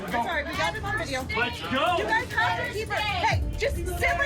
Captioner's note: overlapping chatter; indistinct chatter